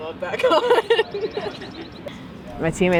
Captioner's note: laughs